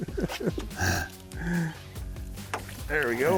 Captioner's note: laughs